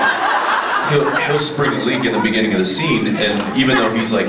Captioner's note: laughs; scattered laughs